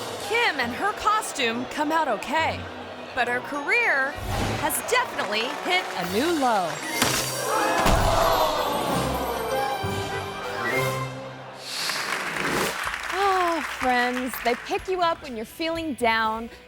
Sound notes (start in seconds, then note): 7.0 rope snaps; 8.0 crowd; 8.6 upbeat instrumental music; 11.7 crowd applauds; 11.7 screen swooshes; 13.3 sighs